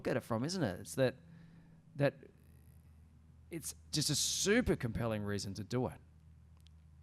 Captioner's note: stammering